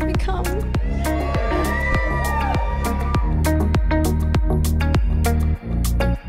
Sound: upbeat music; audience cheers

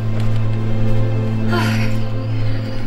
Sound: emma takes a deep breath

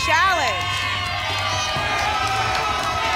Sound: cheering

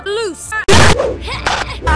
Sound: crash

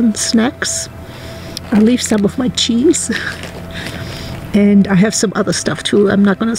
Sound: laughs

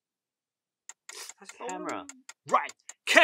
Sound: timer ticking

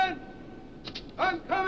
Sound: snow crunches

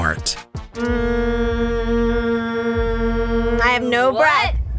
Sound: humming

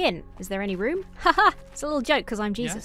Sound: chuckles

